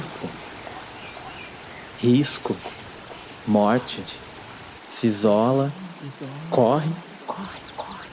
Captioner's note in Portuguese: sussurrando